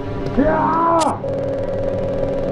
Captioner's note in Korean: 이야아아~!